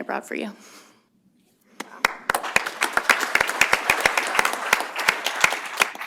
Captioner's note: applause